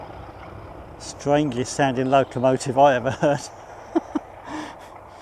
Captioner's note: laughs